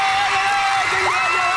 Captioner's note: cheering